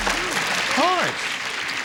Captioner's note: applause